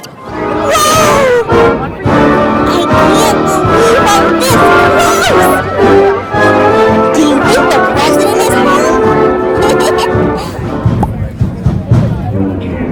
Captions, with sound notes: WOAH! I can't believe I'm this close! Do you think the President is home? (LAUGHS)